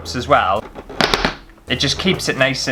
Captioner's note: suction Pops